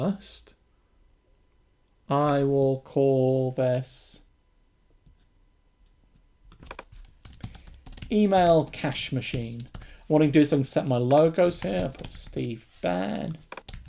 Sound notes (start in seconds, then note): 6.6 keyboard clicking